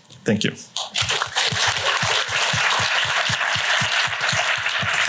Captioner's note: applause